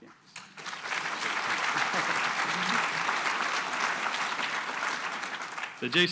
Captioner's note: applause